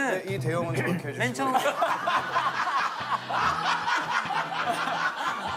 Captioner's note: laughter